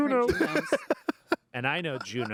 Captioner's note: laughs